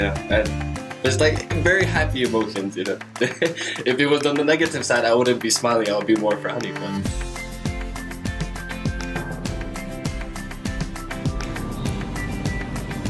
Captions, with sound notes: Yeah, there’s like very happy emotions you know? [laughs] If it was on the negative side, I wouldn’t be smiling I would be more frowny